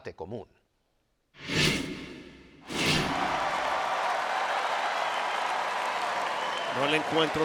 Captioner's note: applause